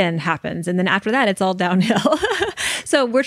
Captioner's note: laughs